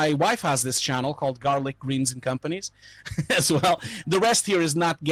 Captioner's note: laughing